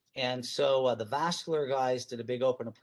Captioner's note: none